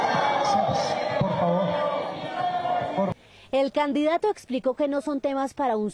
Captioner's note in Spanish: abucheos